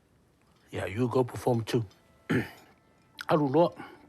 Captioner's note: clears throat